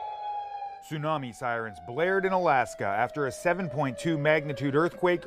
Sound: sirens

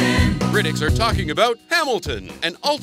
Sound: voiceover

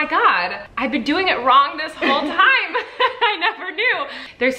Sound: laughs

